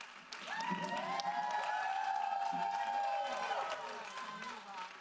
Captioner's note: audience applauding